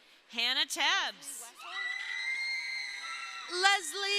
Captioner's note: crowd cheering